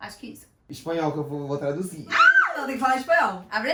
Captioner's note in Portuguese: grito